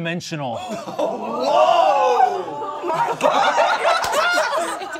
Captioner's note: all exclaiming